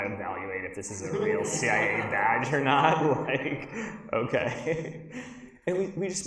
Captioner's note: laughs